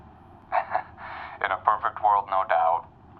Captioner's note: gem laughs